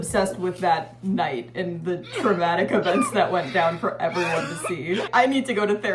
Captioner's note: crying & coughing sounds